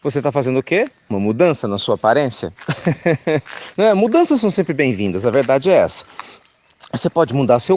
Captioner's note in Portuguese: Risos